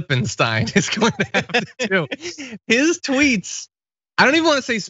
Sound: laugh

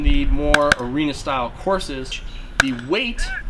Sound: gun firing

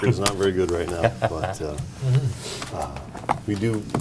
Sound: laughter

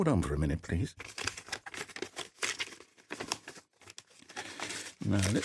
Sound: papers rustling

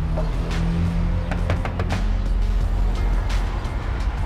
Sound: knocks

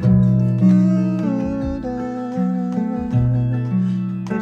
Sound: humming melody

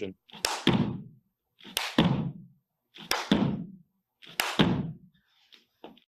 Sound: floor thudding; hands clapping

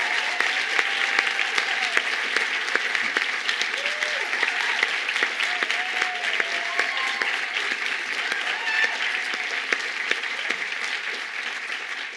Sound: cheers and applause

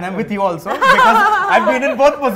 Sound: laughter

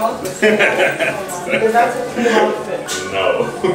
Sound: laughs

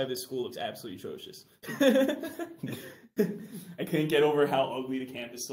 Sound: laughs

